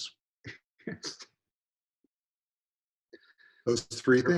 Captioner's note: laughing